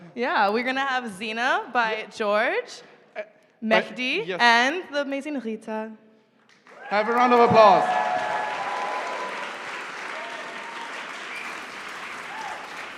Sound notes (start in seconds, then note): 6.6 cheering and applause